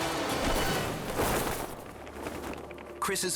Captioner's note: parachute opens